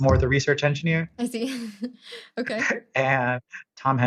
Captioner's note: laughs